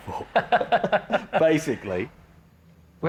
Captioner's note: both laughing